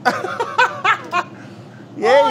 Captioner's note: laughing